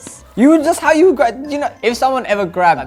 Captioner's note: mumbles